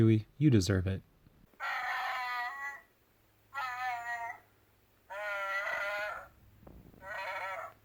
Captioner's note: roar